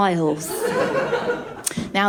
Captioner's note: laughter